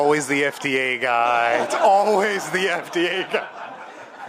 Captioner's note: laughter